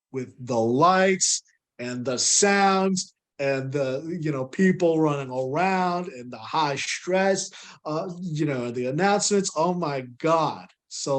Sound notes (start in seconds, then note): none